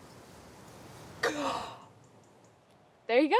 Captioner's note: Kimberly gasps